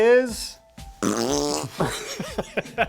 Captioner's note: blows raspberry; both men laugh